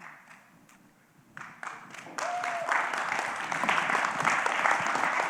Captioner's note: applause